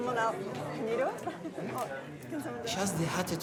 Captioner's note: chuckles